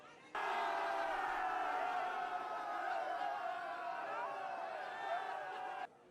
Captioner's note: crowd faintly cheering